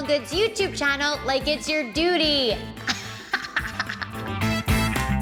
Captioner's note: laughs; upbeat music